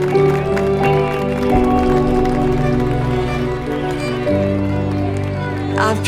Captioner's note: bright music continues; crowd cheers and applauds; bright music continues; crowd cheers and applauds